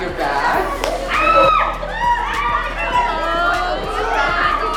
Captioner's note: screaming